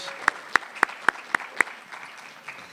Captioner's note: cheering